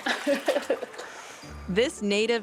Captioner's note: laughter